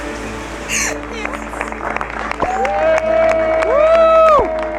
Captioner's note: applause